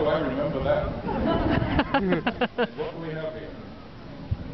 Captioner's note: laughter